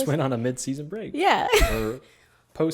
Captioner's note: laughs